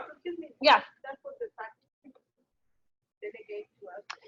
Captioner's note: audio drops